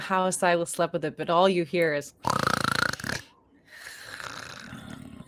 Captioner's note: loud snoring